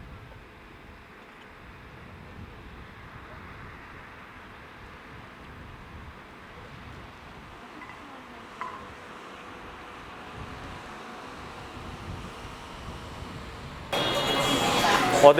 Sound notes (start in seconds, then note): 10.4 car whooshing; 13.9 upbeat music